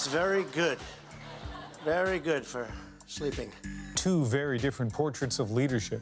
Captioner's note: laughter